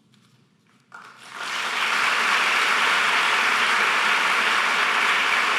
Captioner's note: audience applause